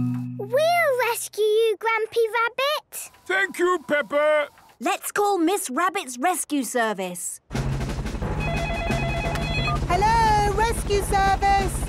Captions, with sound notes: - We'll rescue you, Grampy Rabbit! - Thank you, Peppa! - Let's call Miss Rabbit's rescue service! - (phone ringing) - Hello, Rescue Service?